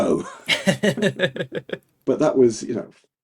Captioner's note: both laughing